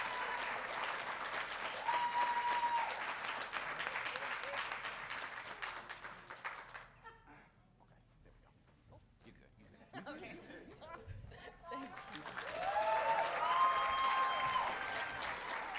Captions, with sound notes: Okay, there we go. - Oop. - You're good. (audience laughing) - Okay. - Thank you. (audience cheering)